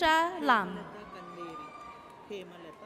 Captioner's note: audience cheers